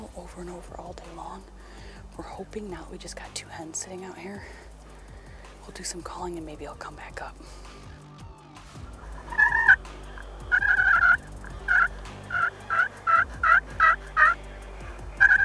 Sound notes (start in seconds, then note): 8.9 turkey calling